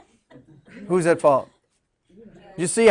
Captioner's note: students laughing